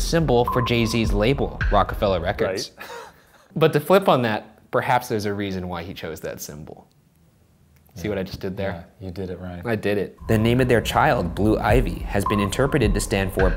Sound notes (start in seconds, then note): 2.8 laughs